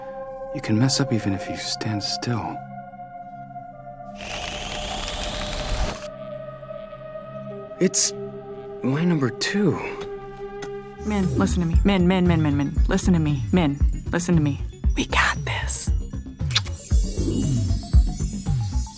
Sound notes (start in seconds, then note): 16.4 smooch